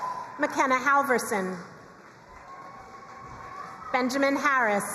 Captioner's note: crowd cheering and applauding; crowd cheering and applauding